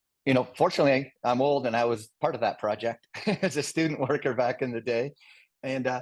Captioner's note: laugh